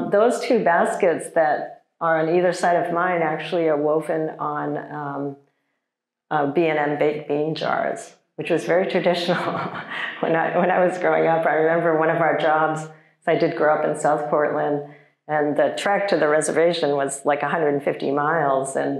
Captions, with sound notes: Those two baskets that are on either side of mine actually are woven on B&M baked bean jars, which was very traditional. (chuckles) When I was growing up, I remember one of our jobs, so I did grow up in South Portland and the trek to the reservation was like 150 miles